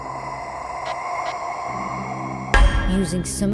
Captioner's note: inhaling